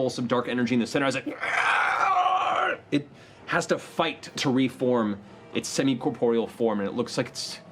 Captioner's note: guttural wail